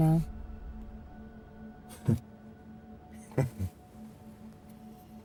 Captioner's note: Ronnie chuckles